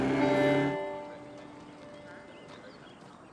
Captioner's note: birdsong